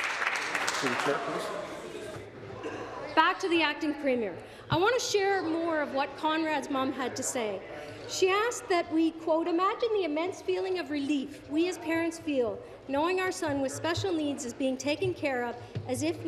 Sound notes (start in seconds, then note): 2.4 applause